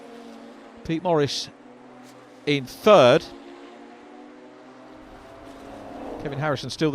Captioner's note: car engines revving